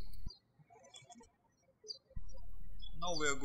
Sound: birds chirping

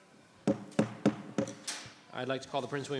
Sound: gavel bangs

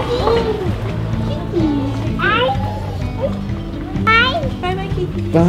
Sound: burbles

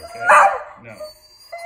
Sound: Oliver barks

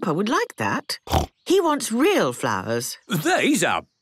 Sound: snorting

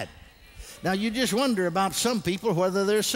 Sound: congregation responds

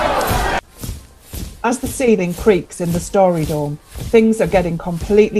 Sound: inside, muffled sound of soldiers marching

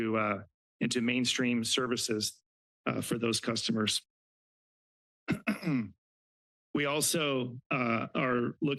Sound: clears throat

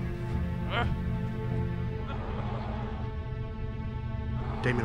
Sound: suspenseful music; zombie groans

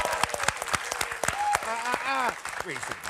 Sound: applause

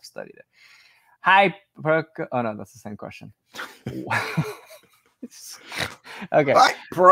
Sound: laughs

